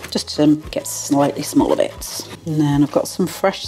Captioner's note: chop chop chop